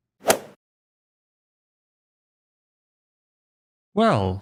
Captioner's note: golf ball hit sound effect